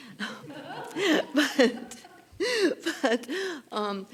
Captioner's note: laughing